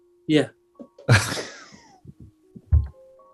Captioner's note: chuckling